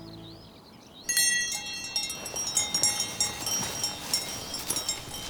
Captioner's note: cowbell rings